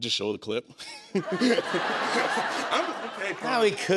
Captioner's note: laughter